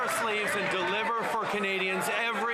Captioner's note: some Applause